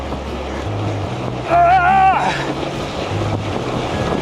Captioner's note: grunts with effort